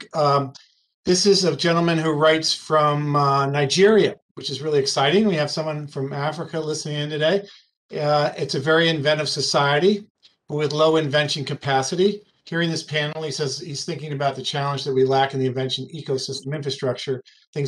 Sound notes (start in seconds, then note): 12.2 speaking faintly